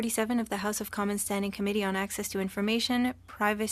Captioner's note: speaking French